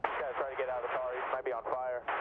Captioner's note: radio